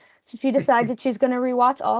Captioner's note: chuckling